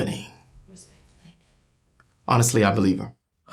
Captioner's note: clicks